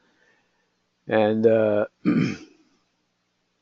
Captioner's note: cough